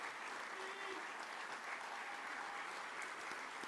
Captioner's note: voiceover